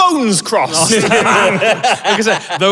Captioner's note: group laughing